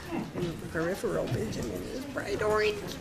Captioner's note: woman's Voice